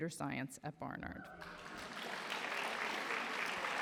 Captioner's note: applause